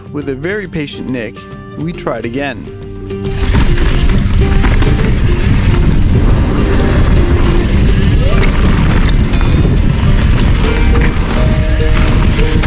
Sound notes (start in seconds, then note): 5.7 tires running along planks rhythmically; 8.5 tires crushing into the dirt